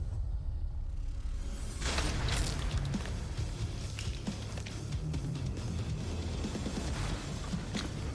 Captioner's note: blade impacts